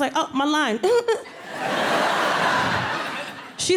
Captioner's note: audience laughing